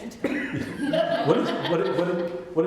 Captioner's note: laughter